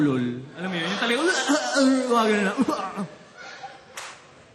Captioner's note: slurred barking